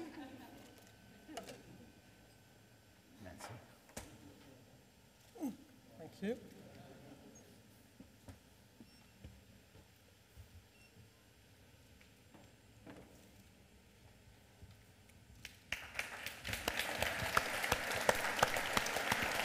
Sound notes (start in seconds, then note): 5.9 audience applause